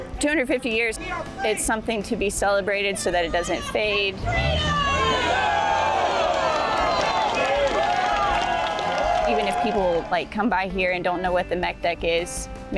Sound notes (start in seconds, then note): 3.8 crowd; 4.9 crowd applauding